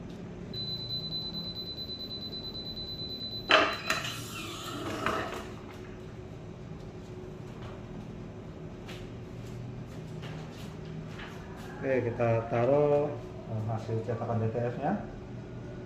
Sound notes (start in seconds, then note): 0.2 button beeping; 3.3 pressing machine sound